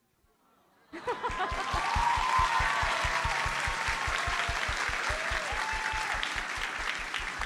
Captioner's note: audience laughs; audience cheers and applauds